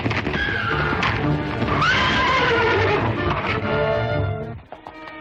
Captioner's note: dramatic music; horse neighing; soft suspenseful music